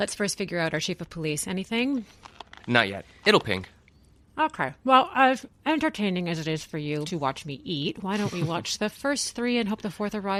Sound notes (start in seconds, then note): 5.1 chewing